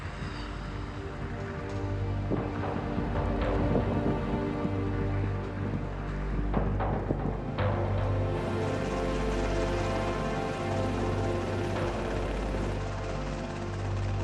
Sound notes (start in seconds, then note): 10.2 helicopter whirring